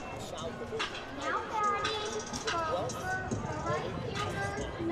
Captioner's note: stadium announcement